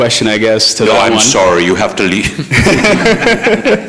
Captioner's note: all laughing